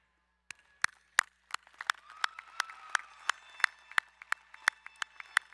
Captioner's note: crowd cheering and applauding